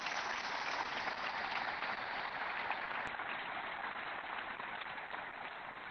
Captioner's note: applause